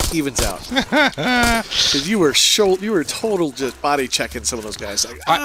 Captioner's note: laughs